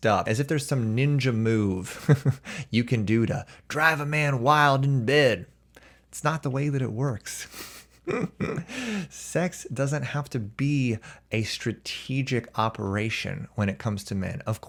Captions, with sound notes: as if there's some ninja move you can do to drive a man wild in bed. It's not the way that it works. [chuckles] Sex doesn't have to be a strategic operation when it comes to men.